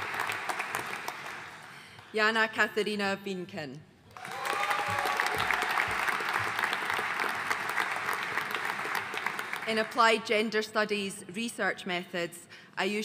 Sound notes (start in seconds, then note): 4.1 audience applauding